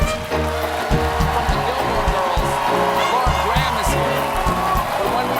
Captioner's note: cheers and applause